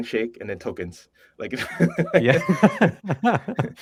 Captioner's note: laughter